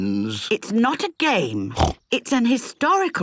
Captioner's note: snorts